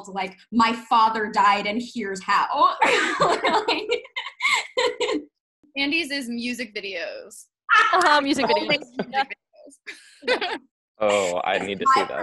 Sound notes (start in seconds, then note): 2.8 laughing